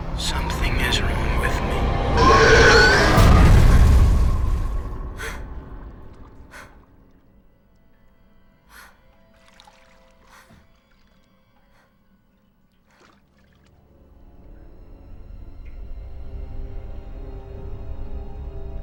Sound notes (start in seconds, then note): 2.1 Mattie screaming; 2.9 Mattie gasping; 13.8 brooding music